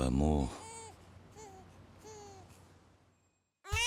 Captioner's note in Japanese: 泣き声